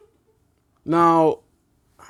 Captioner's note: laughing